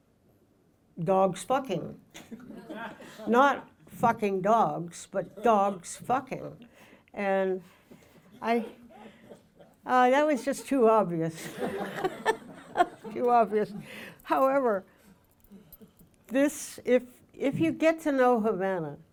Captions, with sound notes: Dog's Fucking, not Fucking Dogs, but Dog's Fucking. And that was just too obvious (laughs). (audience laughing) Too obvious. However, this, if you get to know Havana,